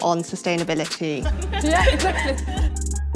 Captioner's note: all laughing; upbeat music